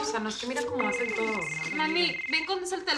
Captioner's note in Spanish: Suena el celular